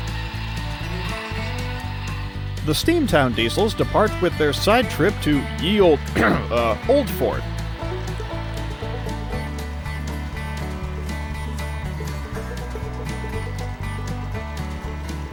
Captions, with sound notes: The Steamtown diesels depart with their side trip you Ye Olde… [Clears Throat] Uh… Old Fort.